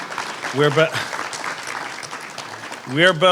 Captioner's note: applause